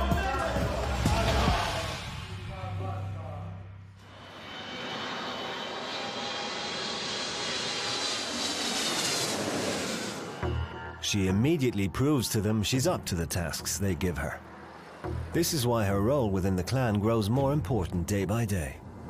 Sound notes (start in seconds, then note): 4.0 plane engines roaring